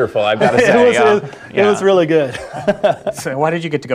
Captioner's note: laugh